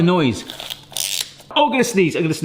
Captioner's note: gadget creaks